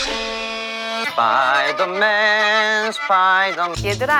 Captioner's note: squeaking sound